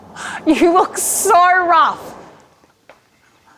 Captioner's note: laughing